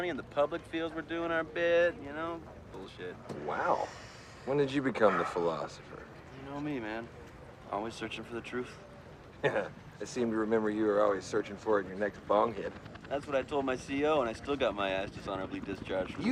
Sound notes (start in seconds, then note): 9.4 Jason chuckles